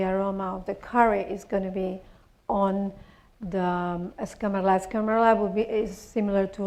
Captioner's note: spanish